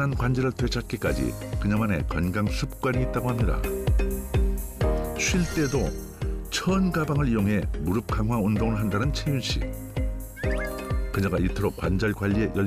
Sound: voiceover

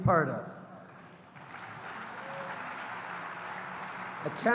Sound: applause

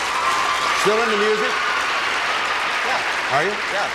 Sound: applause

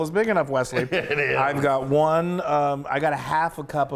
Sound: laugh

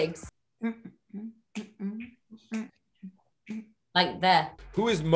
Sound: fingers snapping; humming

